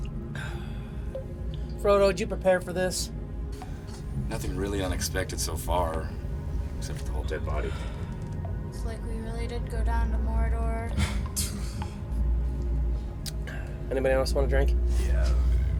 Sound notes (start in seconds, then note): 0.4 sighs